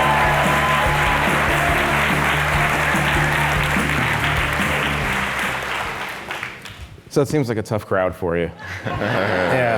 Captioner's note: applause